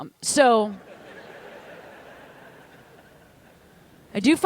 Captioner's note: laughter